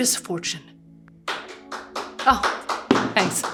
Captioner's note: colleague claps